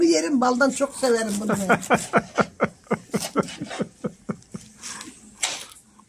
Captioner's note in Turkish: Kahkaha